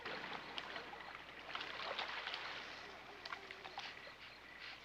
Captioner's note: water splashing